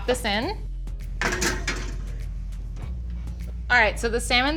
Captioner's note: pan banging